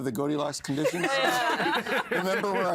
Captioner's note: all laughing